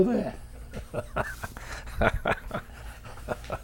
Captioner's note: laughs